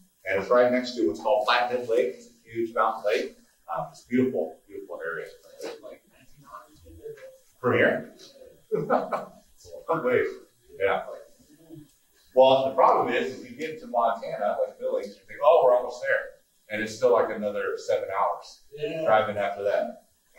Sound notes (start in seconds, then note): 5.8 someone speaking off mic; 8.0 laughing